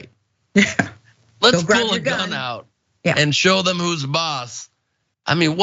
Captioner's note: laugh